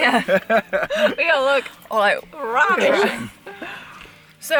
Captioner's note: laughs